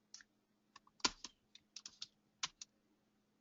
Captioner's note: typing sound